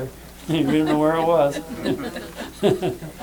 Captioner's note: laughter